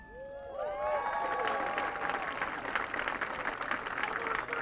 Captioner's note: audience cheering